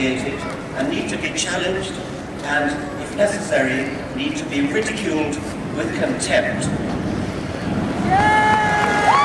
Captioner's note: loud applause